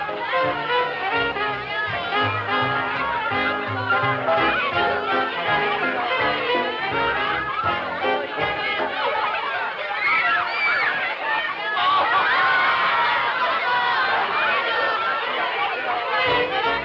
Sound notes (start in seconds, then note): 10.2 children shouting